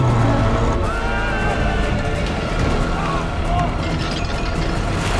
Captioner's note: screaming